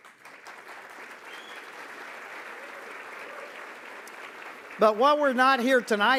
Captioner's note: applause